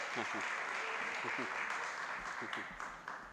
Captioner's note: applause